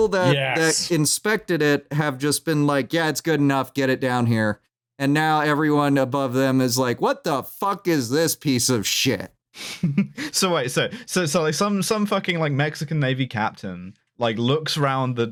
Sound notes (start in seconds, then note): 9.6 chuckles